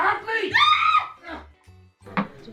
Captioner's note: screams